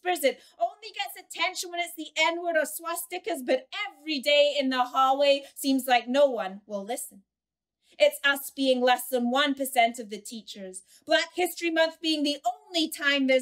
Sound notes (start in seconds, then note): none